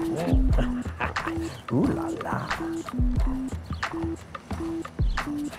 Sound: laughs

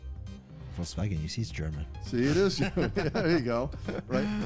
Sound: laughter

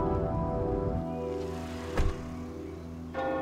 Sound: car door closes; church bell gongs

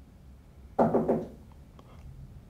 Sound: knocking at the door

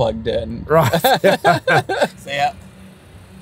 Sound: laughing

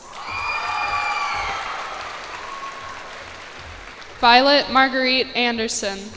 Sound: cheers and applause

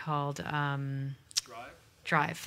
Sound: voiceover

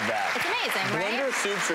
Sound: applause

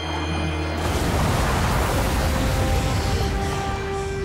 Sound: splashing

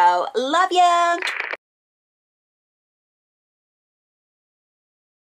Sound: TV static buzzing

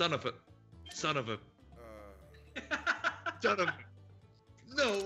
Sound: laugh

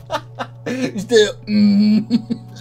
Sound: mmmmmmh

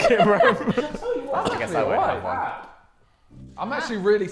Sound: Sidemen laughing

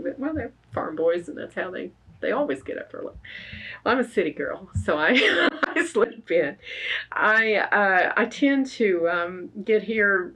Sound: laughs

